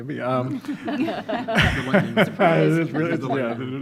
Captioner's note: all laughing